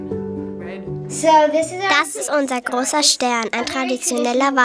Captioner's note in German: englisch